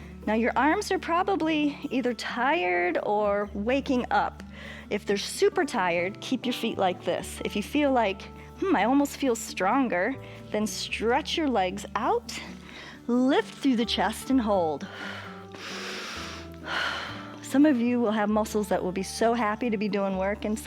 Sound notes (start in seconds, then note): 14.8 inhales and exhales